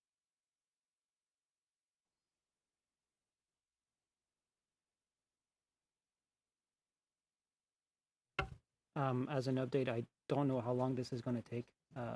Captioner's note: silence